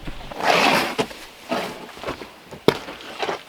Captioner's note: scraping